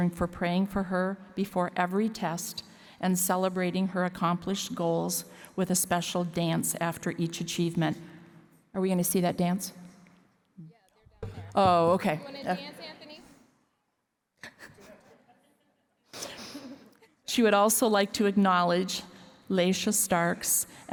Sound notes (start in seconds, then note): 14.4 laughter